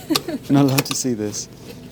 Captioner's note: laughter